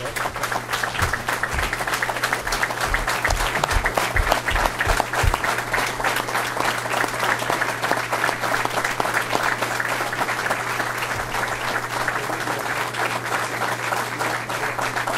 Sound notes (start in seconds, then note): 1.6 applause